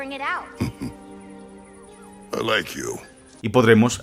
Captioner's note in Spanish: ríe